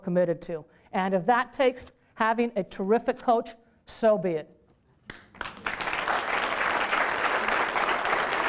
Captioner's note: applause